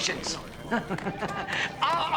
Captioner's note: chuckling